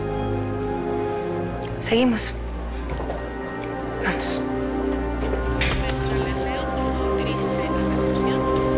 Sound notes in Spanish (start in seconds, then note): 5.2 Sonido al abrir la puerta